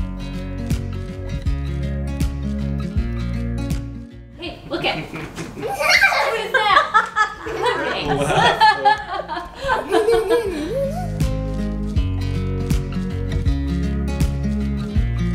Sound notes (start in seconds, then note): 4.5 laughs